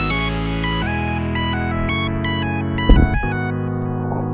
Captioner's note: swish